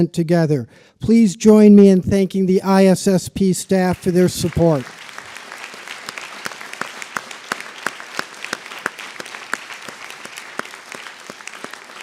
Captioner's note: applause